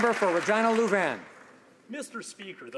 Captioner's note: some Applause